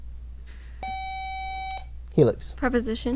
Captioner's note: buzzer